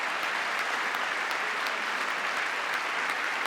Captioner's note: cheering; applause